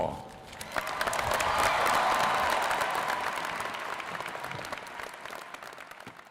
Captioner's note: applause